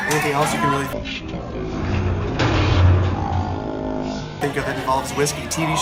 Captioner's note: slow motion audio